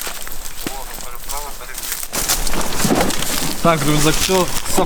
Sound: radio on

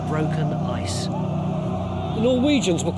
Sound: suspenseful music; men shouting

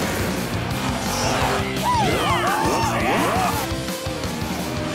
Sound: cheering

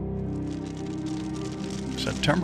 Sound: fire crackling

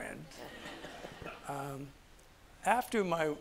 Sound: audience laughs

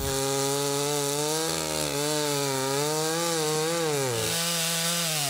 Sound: chainsaw buzzing

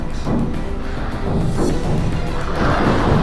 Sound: door banging

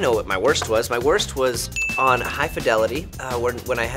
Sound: bell dinging

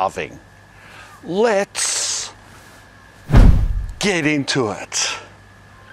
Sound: thud

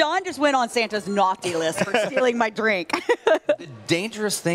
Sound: laughter

